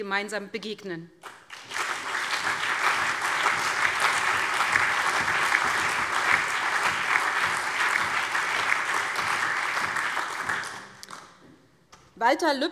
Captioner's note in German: Allgemeiner Beifall